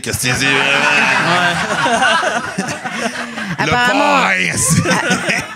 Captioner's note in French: rires